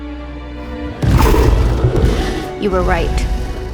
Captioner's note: creature growls